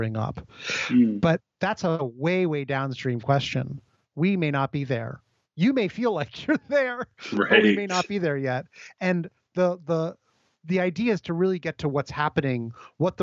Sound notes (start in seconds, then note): 7.1 laughs